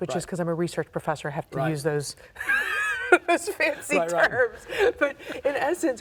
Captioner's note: laughs